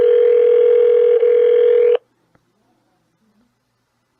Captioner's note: phone still ringing